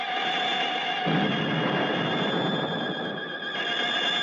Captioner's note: dramatic orchestral music; laser blasting